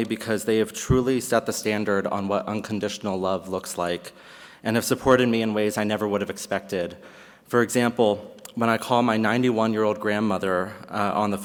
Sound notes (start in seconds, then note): none